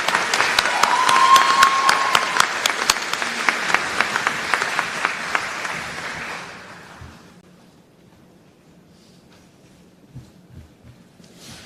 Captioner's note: applause